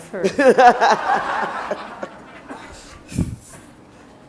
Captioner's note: laughter